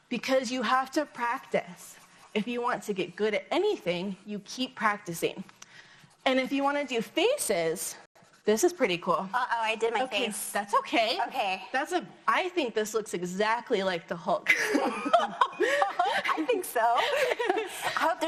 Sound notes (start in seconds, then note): 14.6 laughs